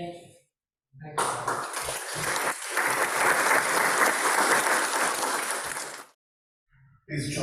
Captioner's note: applause